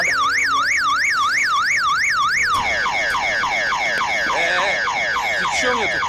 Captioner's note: car alarm sounds